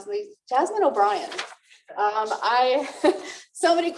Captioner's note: laughter